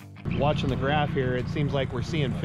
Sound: boat engine running

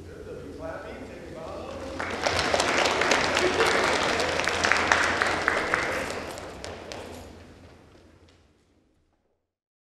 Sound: applause

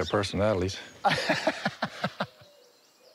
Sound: laughs

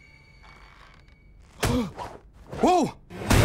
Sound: gasps

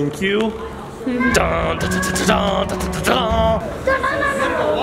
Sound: humming

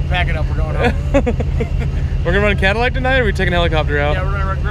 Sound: chuckles

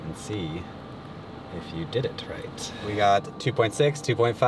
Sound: none

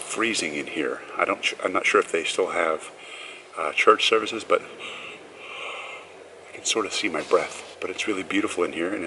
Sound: exhaling

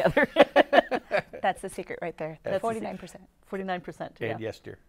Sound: laughs

